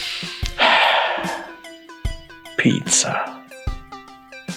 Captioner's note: deep sigh